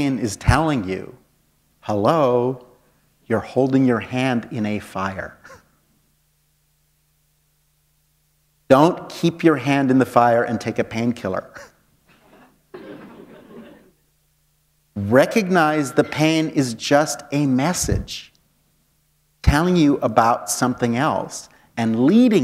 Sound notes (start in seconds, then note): 12.7 chuckle